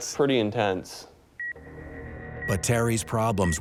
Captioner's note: beeping